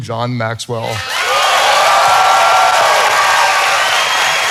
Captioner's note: audience cheering